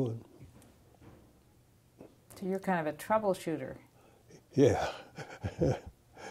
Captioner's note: laughter